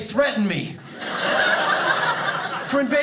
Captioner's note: audience laughing